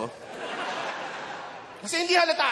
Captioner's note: laughter